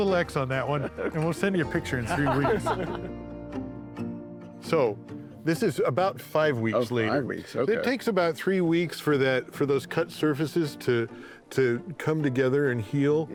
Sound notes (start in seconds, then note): 2.0 laughter